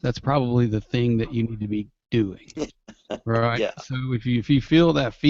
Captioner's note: laughter